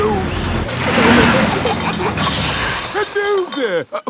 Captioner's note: peppa and george giggling; air hisses